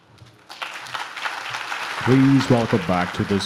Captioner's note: audience claps